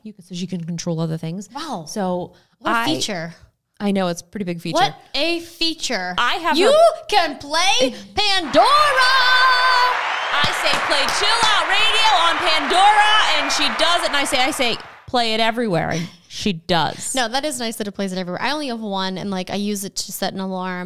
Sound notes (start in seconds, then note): 8.2 crowd cheering; 10.2 claps